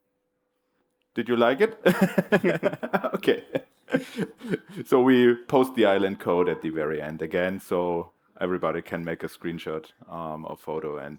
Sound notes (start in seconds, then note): 1.8 laughter